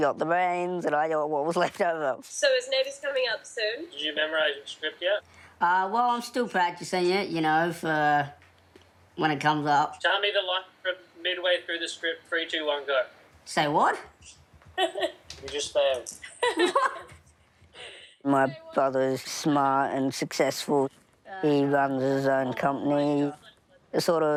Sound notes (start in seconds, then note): 14.7 laughs